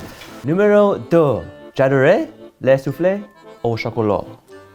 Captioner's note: speaking French